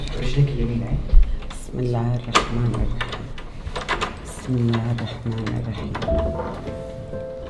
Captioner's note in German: Schlüssel dreht sich im Schloss